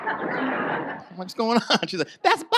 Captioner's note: audience laughs